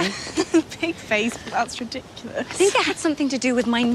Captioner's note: laughs